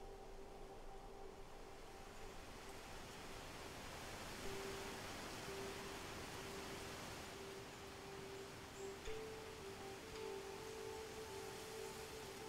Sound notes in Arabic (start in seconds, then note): 0.1 حفيف الريح; 8.2 زقزقة طيور الصباح